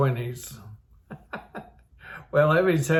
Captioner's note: laughs